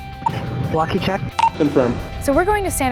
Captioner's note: beep